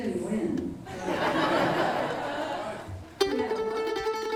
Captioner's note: laughter; upbeat bluegrass music